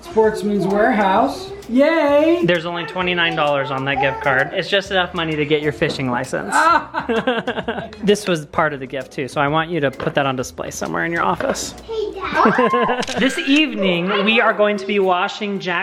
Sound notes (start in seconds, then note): 6.5 laughing; 12.2 laughing